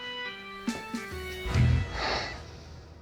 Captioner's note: sighs